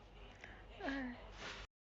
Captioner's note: sighs